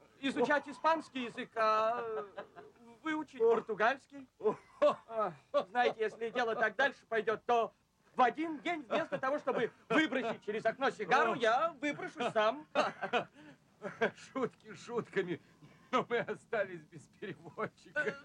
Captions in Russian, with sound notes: изучать испанский язык, а... выучить португальский... Ох, знаете, если дело так дальше пойдет, то... в один день, вместо того, чтобы выбросить через окно сигару, я выброшусь сам! [смеется] - [смеясь] Шутки шутками, но мы остались без переводчика!